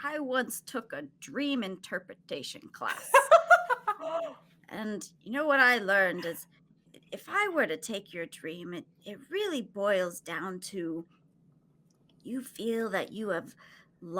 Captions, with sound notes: - I once took a dream interpretation class. (all laughing) And you know, what I learned is if I were to take your dream, it really boils down to you feel that you have lost